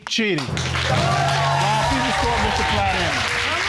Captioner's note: cheering